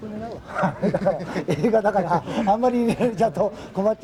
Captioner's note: laughter